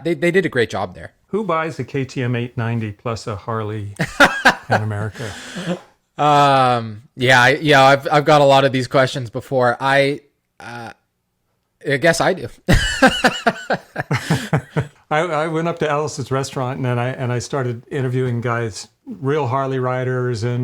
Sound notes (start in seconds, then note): 4.0 laughs; 12.7 laugh